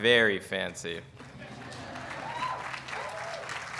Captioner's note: laughter and applause